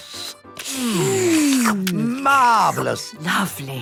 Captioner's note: slurping